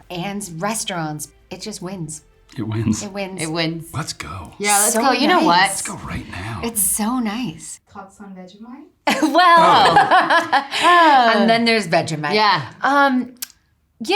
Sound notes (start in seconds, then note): 9.1 laughs